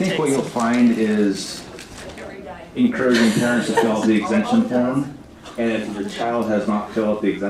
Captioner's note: laughter